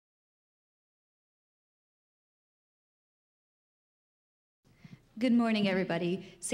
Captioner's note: silence